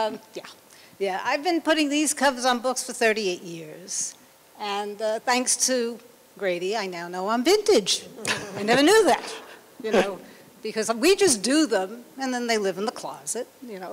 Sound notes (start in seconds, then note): 8.2 laughter